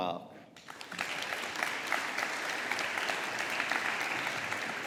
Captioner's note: audience applauding